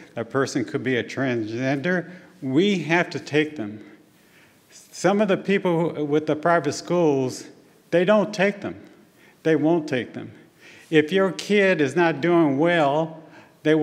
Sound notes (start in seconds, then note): none